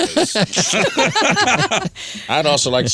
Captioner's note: laughing